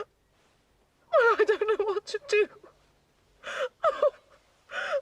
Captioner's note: Menangis